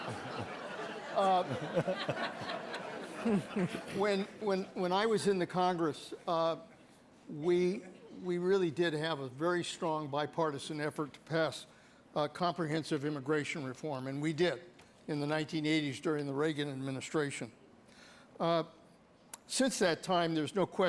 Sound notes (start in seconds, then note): 0.0 applause; 5.5 laughter